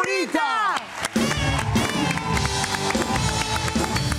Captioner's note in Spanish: Aplausos